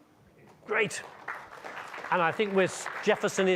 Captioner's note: audience clapping